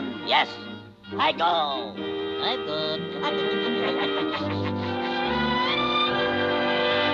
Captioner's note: chuckling